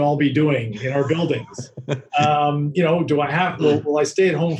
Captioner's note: laughing